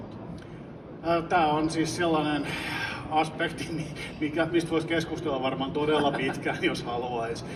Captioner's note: laughing